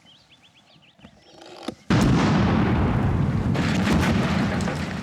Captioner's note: explosion